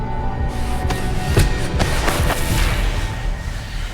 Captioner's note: dragging gravel, impact; music stops